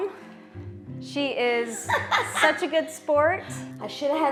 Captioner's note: laughs delightedly